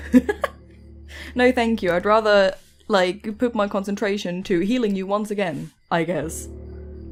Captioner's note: laughs